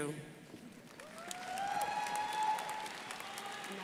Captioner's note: crowd applauding